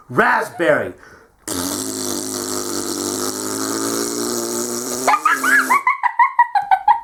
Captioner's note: gives Bronx cheer